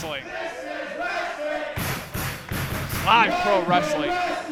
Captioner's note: crowd; clapping